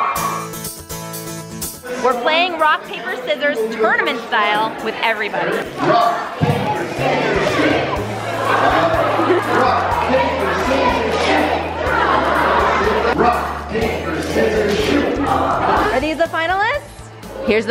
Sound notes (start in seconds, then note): 9.1 crowd laughing; 11.4 crowd noise